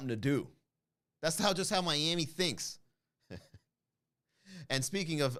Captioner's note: chuckle